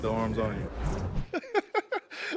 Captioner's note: laughter